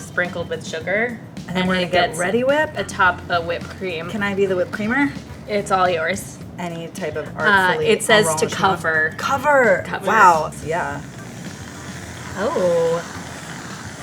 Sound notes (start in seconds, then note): 10.5 Reddi-wip whooshes